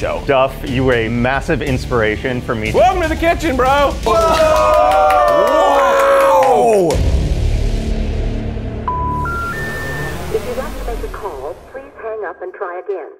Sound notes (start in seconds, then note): 4.0 all exclaiming; 6.5 suspenseful music; 8.8 busy tone beeping; 10.6 voice Over Phone